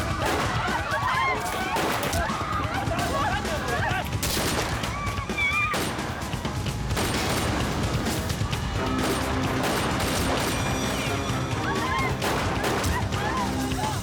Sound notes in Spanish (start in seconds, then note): 4.7 gritos